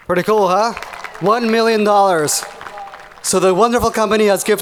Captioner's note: audience applauding